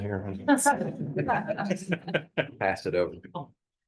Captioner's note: laughter